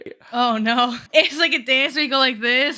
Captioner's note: laughs